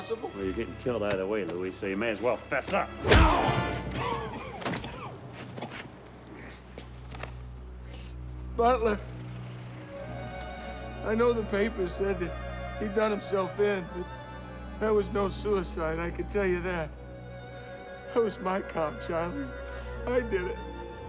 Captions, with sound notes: Well you're gettin' killed either way Louie so you may as well fess up! (GRUNTING) (COUGHING) Butler... I know the papers said that he done himself in but that was no suicide I could tell ya that. That was my car Charlie. I did it.